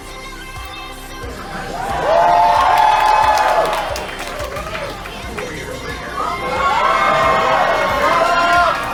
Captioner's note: cheering, applause